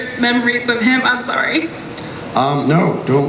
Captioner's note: voice breaks